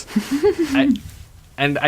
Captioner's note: laughs